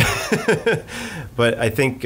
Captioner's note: laughs